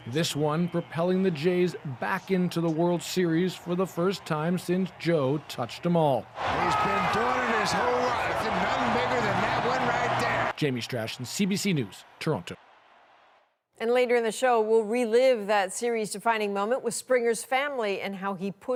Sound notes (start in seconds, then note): 9.1 cheers and Applause